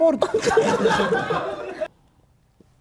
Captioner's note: laughter